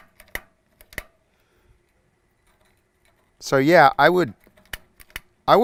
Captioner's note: clicking